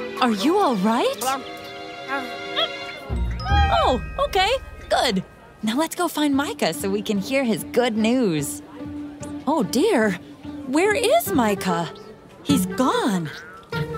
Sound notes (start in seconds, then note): none